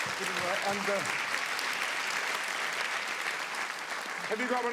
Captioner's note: audience clapping